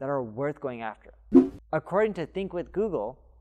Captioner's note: air whooshing